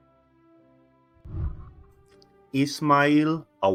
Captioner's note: whooshing